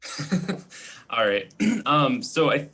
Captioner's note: giggling; clearing throat